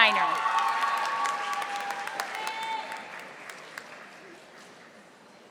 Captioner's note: audience applauding